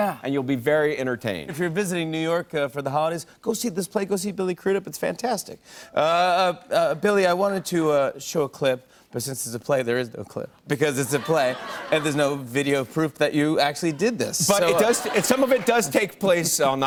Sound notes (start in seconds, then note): 11.0 laughter